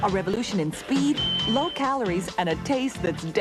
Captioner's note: timer chimes